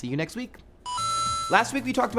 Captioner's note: arcade sound